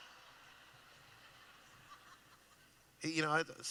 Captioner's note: laughing